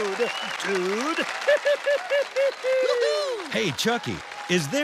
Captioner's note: giggles